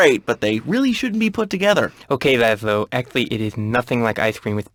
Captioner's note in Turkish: peltek konuşur